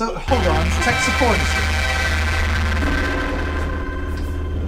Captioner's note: static